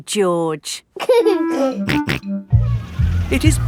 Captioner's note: giggling and snorting